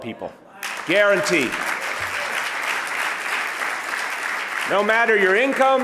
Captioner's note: audience applauding